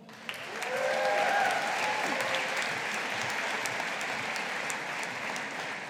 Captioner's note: audience applauding